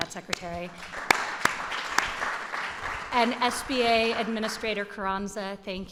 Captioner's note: applause